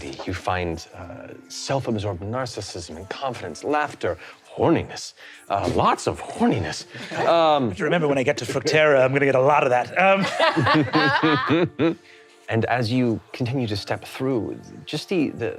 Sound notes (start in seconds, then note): 10.0 all laughing